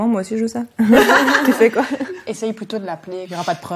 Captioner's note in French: rires